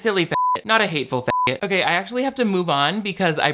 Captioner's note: beep